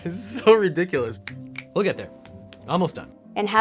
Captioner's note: finger snaps